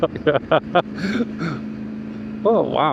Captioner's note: laughs